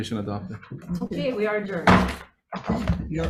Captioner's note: gavel banging; attendees chattering